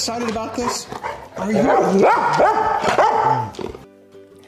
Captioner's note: dog barking; gentle bright music